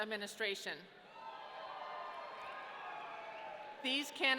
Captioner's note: audience cheering